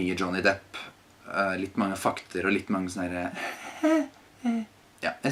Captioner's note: laughs